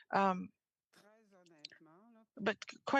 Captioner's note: speaking French